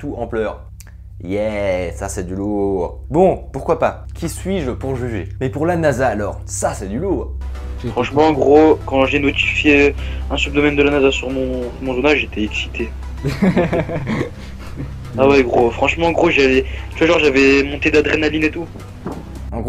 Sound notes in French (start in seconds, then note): 13.2 Rire